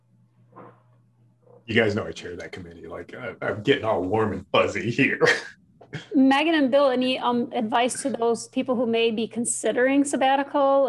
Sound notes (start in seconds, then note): 5.1 chuckling